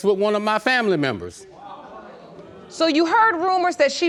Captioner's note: audience gasps